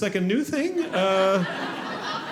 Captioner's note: audience laughing